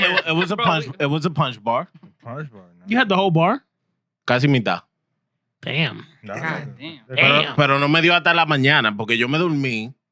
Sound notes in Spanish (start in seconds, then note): 4.8 Hablando en idioma extranjero